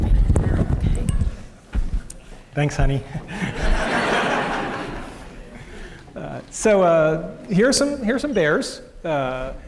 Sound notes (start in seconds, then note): 3.4 laughter